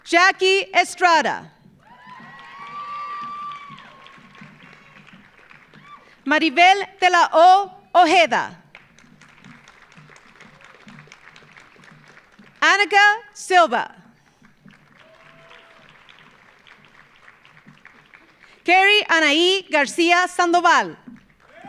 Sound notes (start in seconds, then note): 1.8 audience cheering; 1.8 audience applauding; 8.7 audience applauding; 14.3 audience applauding